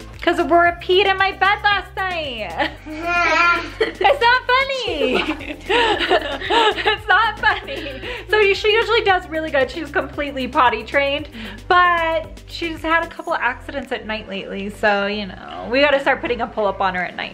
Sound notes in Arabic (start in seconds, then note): 3.2 يضحك; 4.9 الكل يضحك